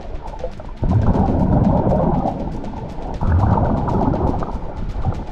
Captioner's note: water gurgling continues